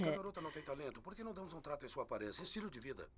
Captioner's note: voiceover